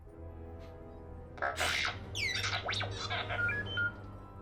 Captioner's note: R7 chirps